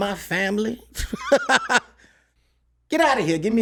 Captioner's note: laughs